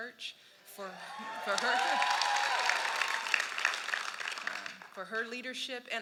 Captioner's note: cheers and applause